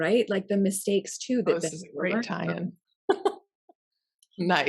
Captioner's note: laughs